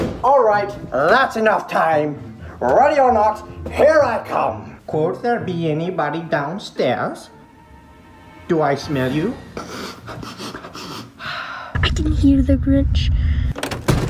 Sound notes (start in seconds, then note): 9.6 sniffs; 13.5 door banging